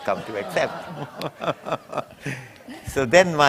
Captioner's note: laughter